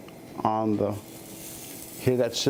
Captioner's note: sizzling